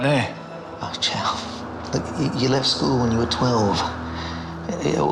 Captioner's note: laughs